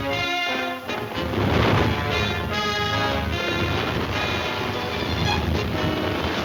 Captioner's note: crashing